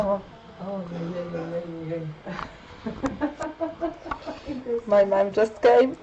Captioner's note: mom giggles